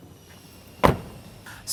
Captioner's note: door closes